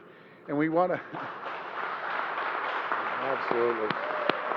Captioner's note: applause